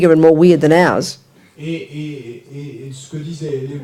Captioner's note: speaking in French